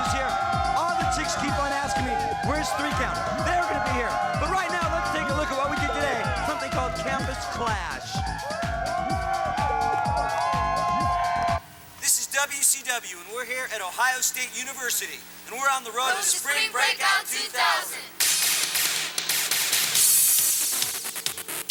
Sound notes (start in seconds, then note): 8.2 crowd cheering; 18.2 fun electronic music